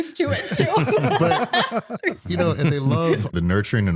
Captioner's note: laughter